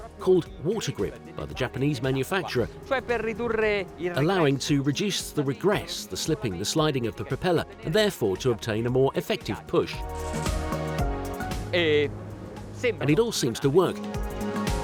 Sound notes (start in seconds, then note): 11.8 speaking foreign language